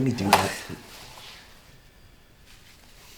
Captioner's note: scoffs